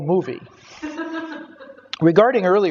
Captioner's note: audience laughter